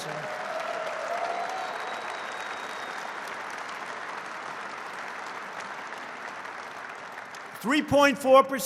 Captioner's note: applause